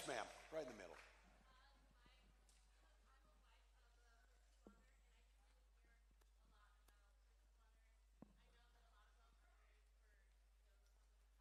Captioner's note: cheering